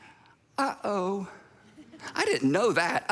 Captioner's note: congregation laughs